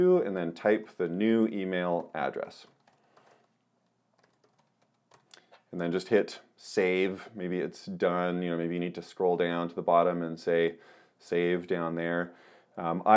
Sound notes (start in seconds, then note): 2.2 keyboard clicks